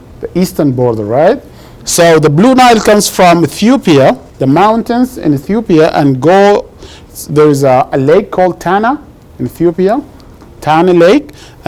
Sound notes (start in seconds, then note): none